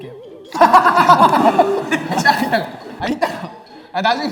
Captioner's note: he he he